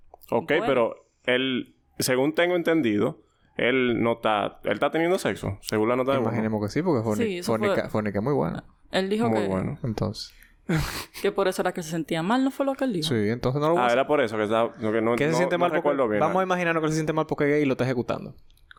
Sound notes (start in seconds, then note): 11.0 laughs